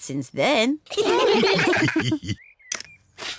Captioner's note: all laugh